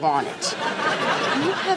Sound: laughing

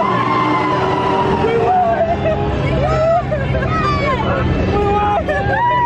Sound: laughs

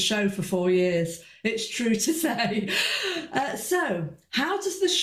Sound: chuckles

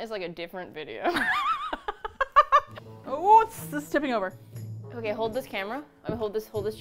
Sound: both laugh

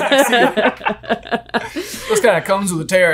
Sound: all laughing

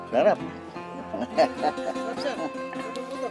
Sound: laughs

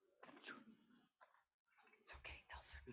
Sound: board member speaks faintly

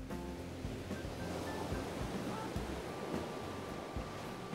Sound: waves lapping

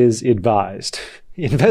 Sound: laughs

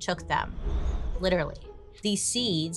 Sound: wind whistling

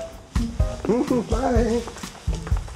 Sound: chuckles nervously

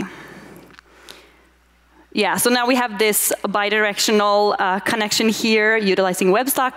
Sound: none

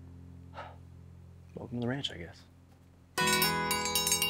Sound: sighs; triangle chimes

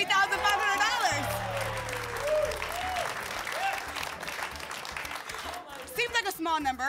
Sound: applause

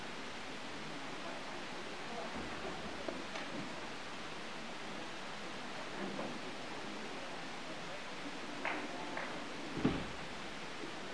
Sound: applause

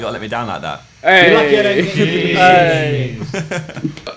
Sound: cheering

